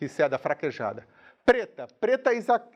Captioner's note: speaking in a foreign language